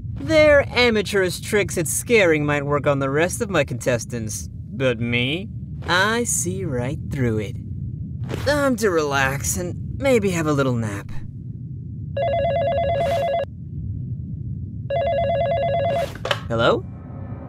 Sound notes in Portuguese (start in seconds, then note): 12.2 Barulho de telefone